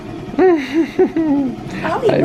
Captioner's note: chuckles